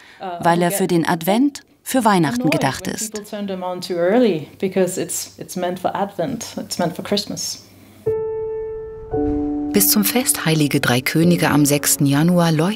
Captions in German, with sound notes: weil er für den Advent, für Weihnachten gedacht ist. (Sie spricht auf Englisch fertig.) (Ruhige Klaviermusik) Bis zum Fest "Heilige Drei Könige" am 6. Januar